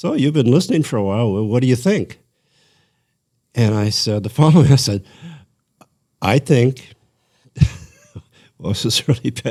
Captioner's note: laughter